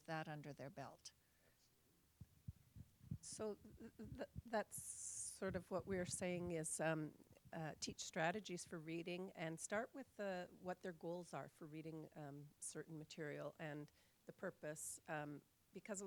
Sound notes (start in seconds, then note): 4.8 voiceover